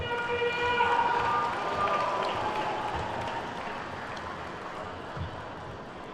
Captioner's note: attendees whooping and clapping